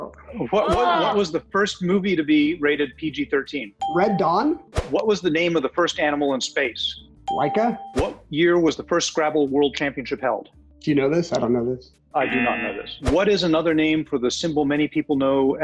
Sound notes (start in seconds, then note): 3.8 ding